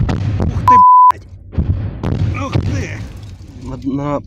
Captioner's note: cluster munitions exploding. Soldiers cursing